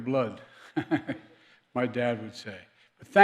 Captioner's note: laughs